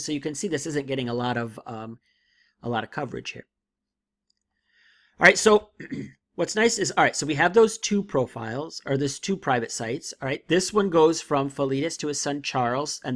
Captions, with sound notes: so you can see this isn't getting a lot of coverage here. All right, so (clears throat) what's nice is, all right, so we have those two profiles, or those two private sites, all right? This one goes from Philetus to a son Charles